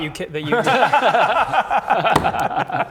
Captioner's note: close-enough laughter